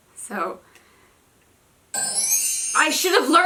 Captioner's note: super loud bell sound